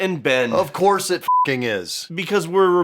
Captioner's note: beeping